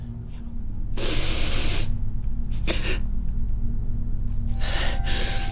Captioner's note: sobs; Margaret sniffling